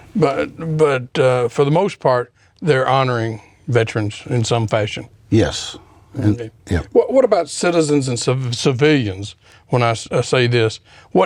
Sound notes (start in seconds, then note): none